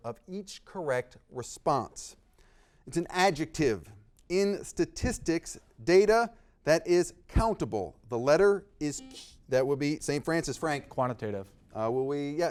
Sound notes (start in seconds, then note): 9.2 buzzer beeping